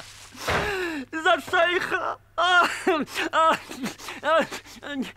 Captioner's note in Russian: рыдает